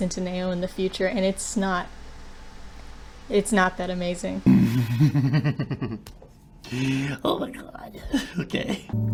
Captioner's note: serial killer giggle